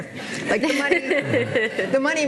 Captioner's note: laughing